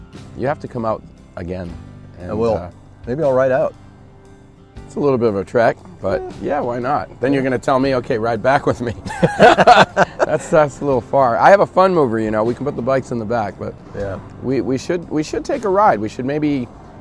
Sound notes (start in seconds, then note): 8.6 laughs